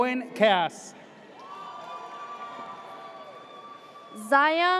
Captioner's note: audience cheers